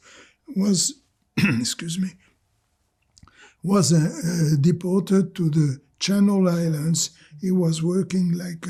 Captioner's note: clears throat